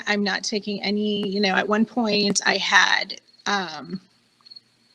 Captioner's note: none